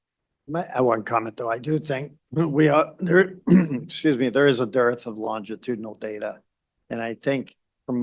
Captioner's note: clears throat